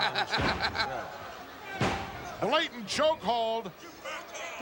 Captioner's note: laugh